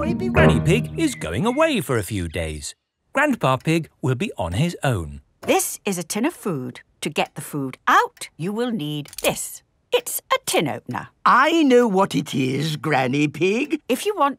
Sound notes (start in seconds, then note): none